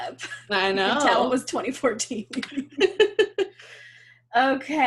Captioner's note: both laugh